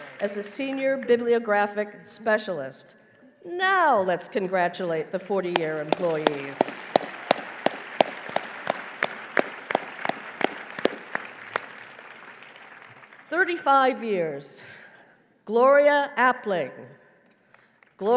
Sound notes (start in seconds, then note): 7.4 applause